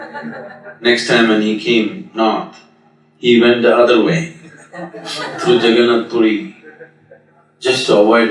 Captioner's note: meditators Laugh; meditators Laugh